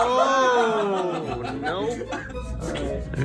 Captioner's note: laughing